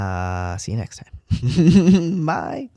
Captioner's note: laugh